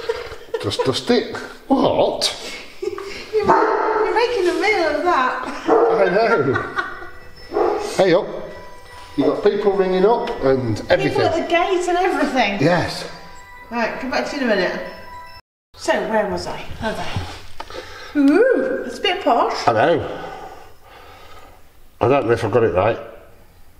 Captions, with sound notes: just dust it... what?! your making a meal of that [dog barks] I know [phone rings] hey up you've got people ringing up and everything, people at the gate and everything, yes right come back to you in a miinuite so where was I, oh there ooo, it's a bit posh, I know I don't know if I've got it right